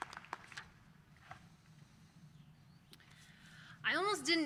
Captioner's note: applause